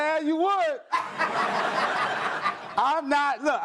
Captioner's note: audience laughs